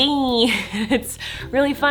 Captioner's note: laughs